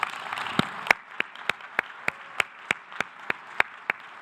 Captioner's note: audience applause